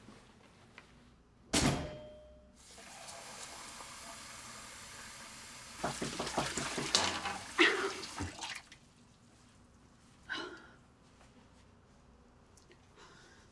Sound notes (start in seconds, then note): 2.6 water running; 5.8 door knocking